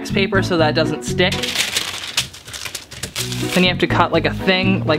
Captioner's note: wax paper rustling